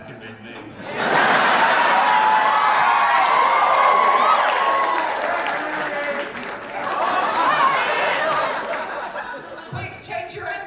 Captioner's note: audience laughter and cheers